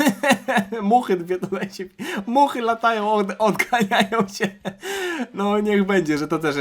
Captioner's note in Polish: śmiech; wciągnięcie powietrza